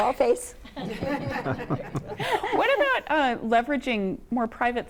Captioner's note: laughter